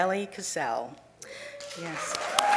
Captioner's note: cheering